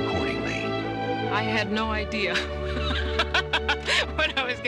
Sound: laughing

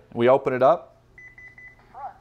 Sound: beeping

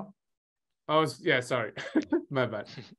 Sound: chuckling

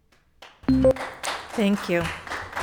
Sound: attendees applauding

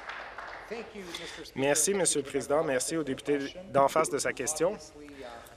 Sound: applause

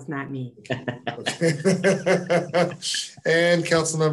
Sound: all laughing

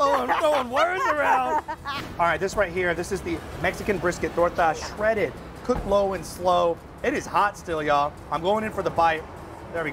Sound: laughter

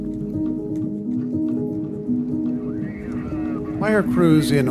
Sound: fire burning

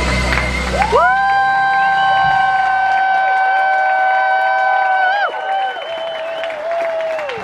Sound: guests cheer and applaud enthusiastically

